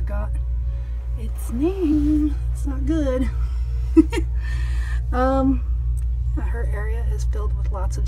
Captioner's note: laughs